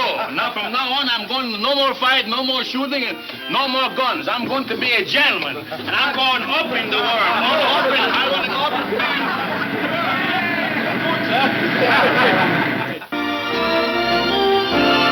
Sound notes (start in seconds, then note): 6.8 machine whirring; 8.4 cheerful laughing; 11.3 western instrumental music